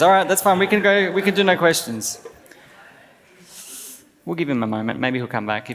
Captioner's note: laughs